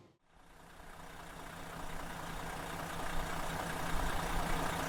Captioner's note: engine rumbling